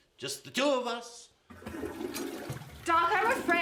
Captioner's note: toilet flushes